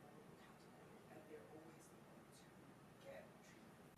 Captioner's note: speaks faintly